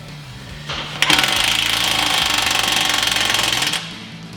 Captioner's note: drill cranking